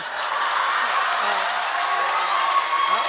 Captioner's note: crowd cheers